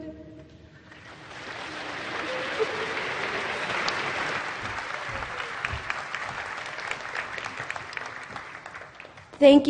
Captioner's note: applause